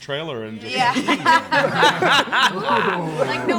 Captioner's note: laughs